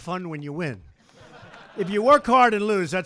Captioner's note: laughter